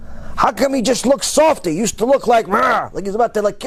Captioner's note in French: enragé